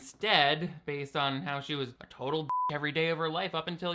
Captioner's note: beep